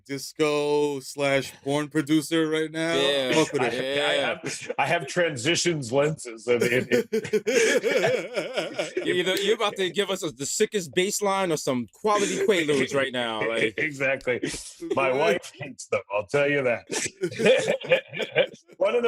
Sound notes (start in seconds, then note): 6.6 laughter